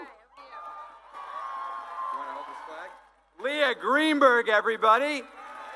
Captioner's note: cheering